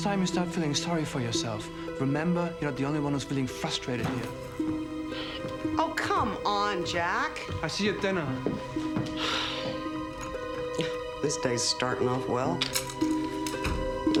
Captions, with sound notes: The next time you start feeling sorry for yourself remember you're not the only one who's feeling frustrated here. - Oh, come on, Jack. - I'll see you at dinner. (Nora scoffs) - This day's starting off well.